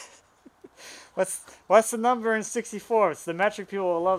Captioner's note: laughs